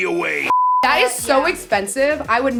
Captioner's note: beep